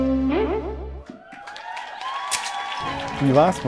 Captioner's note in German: Jubel und Applaus